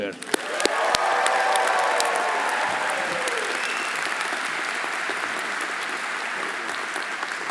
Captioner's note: audience applauding; audience cheering